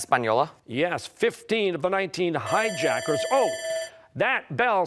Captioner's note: bell ringing